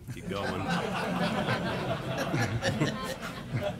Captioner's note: laughter